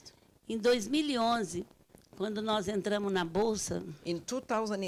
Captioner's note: speaking Portuguese